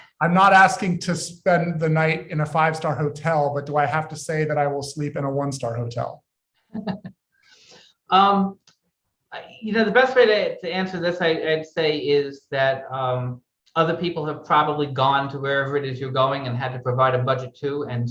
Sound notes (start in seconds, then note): 6.7 laughing